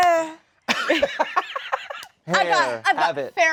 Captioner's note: laughs